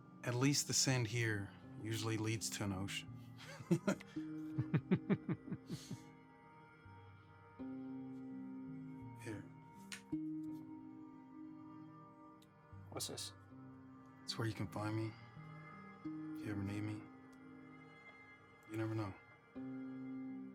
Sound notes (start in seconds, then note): 4.5 laughing